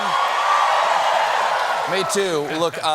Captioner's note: cheers and applause